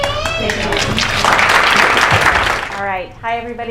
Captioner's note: applause